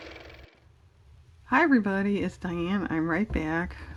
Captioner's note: car motor